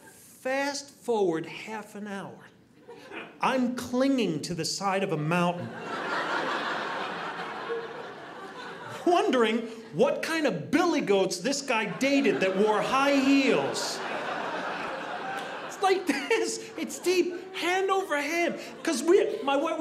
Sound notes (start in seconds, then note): 5.7 audience laughing; 13.8 audience laughing